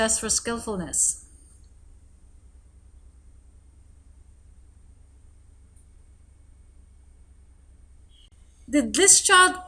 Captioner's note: silence